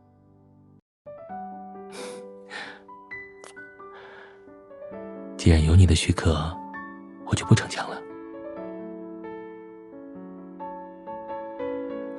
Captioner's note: chuckle then KISS!!!!